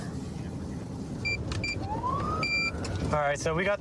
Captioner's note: buttons beeping